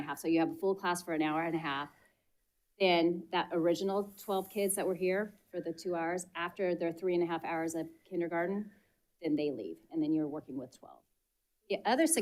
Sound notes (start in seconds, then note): none